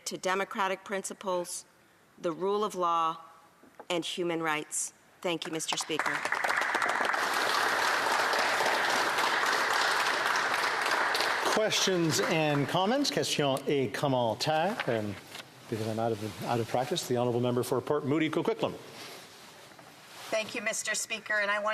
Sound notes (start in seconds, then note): 10.0 applause